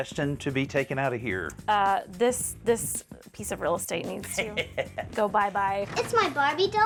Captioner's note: chuckles